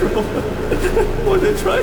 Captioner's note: laughter